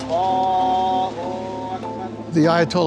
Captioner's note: Khomeini praying